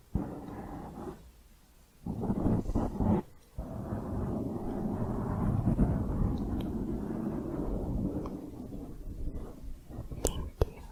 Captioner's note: piecey to smooth mic scratching